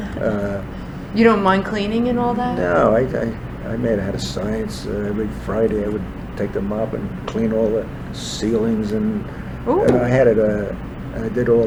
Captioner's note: laughs